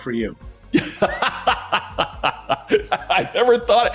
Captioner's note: laughter